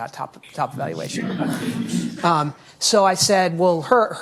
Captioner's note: audience laughing